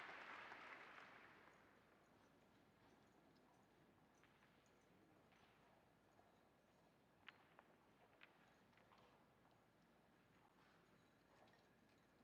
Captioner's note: applause